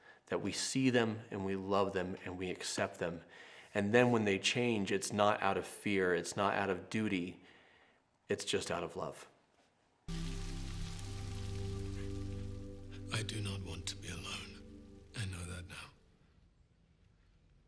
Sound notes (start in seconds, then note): 10.1 rain spattering; 10.1 gentle music